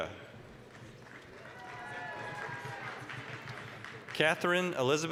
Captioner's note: applause, cheering